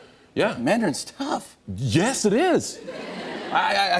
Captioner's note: laughter